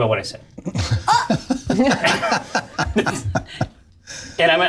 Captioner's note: gasps angrily